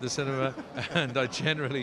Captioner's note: both laughing